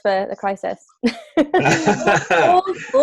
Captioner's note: laughter